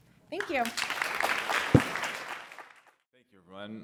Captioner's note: applause